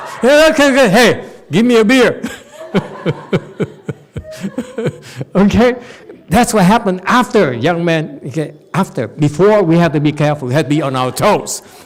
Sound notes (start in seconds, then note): 2.2 and audience laughs